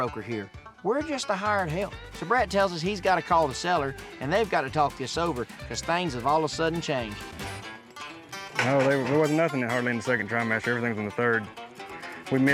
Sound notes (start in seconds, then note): none